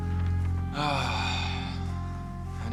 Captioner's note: sighs